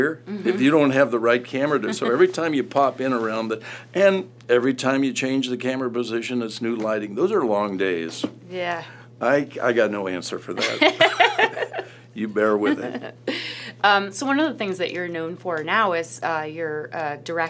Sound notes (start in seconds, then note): 10.6 laughter